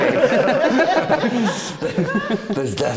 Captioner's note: laughing